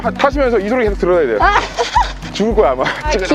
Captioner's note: laughter